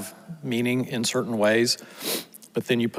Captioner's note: sniffles